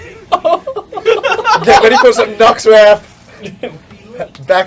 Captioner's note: laugh